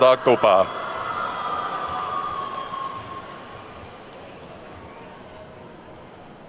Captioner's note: attendees whooping and clapping